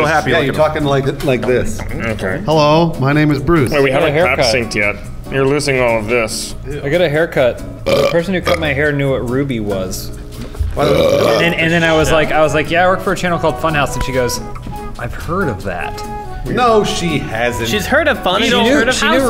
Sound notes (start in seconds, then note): 7.8 burp; 10.6 moreburp